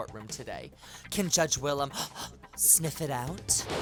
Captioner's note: panting; lively music; lightening bolt